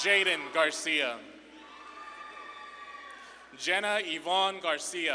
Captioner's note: audience claps and cheers